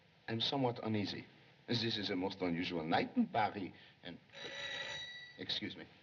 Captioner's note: ringing